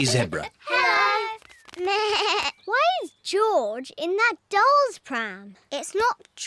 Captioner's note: bleats